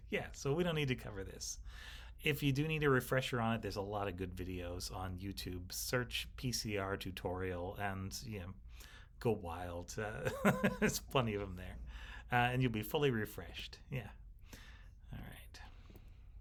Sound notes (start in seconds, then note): 10.2 instructor laughing